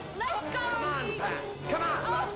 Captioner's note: pat